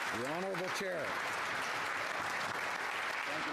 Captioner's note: some Applause